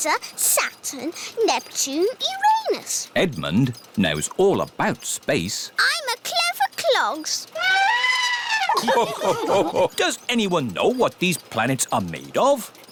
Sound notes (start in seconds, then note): 7.5 trumpets; 8.3 all laugh